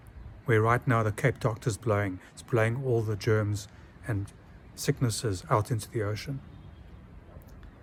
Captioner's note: wind